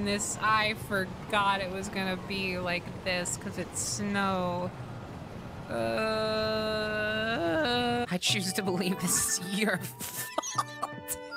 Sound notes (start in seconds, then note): 5.5 groan